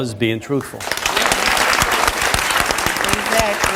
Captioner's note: audience applauds